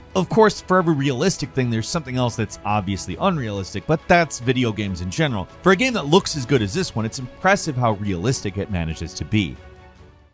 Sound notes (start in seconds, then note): none